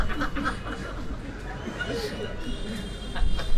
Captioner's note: laughter